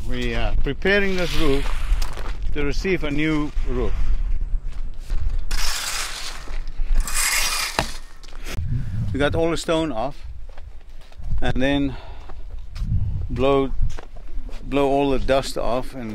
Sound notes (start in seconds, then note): 5.4 shovel scraping stones on roof